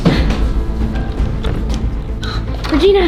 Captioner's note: gasps